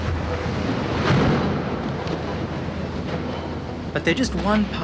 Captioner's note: loud rumbling